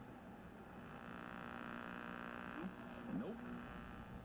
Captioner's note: radio buzzing